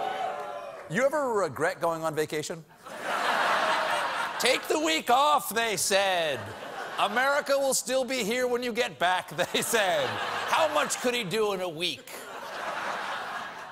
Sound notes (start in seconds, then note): 2.9 audience reacts; 6.4 laughter